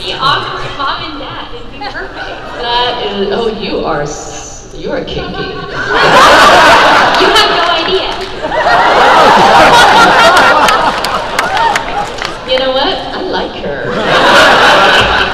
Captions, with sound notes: - Be awkward mom and dad, it'd be perfect. - You are kinky. (crowd laugh) - You have no idea. (crowd laugh) - You know what, I like her.